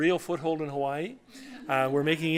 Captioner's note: laughter